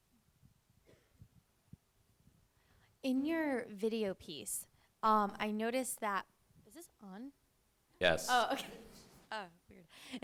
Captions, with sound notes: - [Voiceover] In your video piece, I noticed that... Is this on? - Yes. - [Voiceover] Oh, okay.